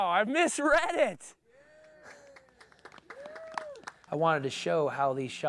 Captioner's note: people cheer and applaud